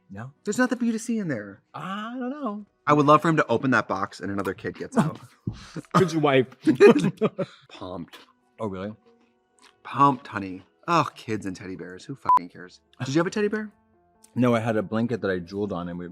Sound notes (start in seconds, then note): 6.6 Katya laughs; 12.2 beep